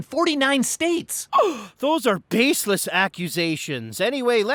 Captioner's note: shocked inhale